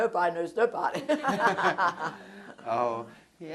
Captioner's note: laughter